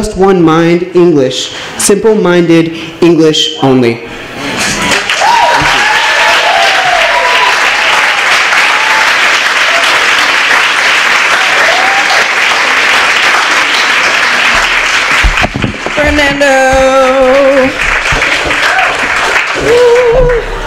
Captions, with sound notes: Just one mind English. Simple minded English only. [applause] Fernando. Whoo.